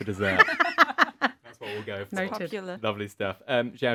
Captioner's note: everybody laughs